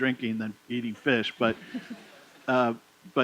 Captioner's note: laughter